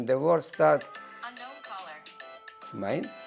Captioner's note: phone ringing